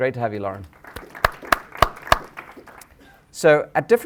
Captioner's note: applause